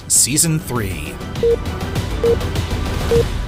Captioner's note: beeping